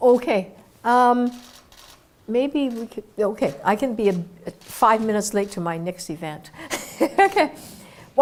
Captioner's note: laugh